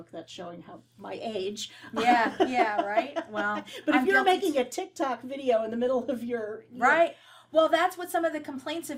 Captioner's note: laugh